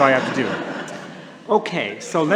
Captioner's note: laughter